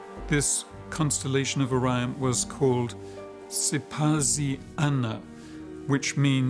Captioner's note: non-english speech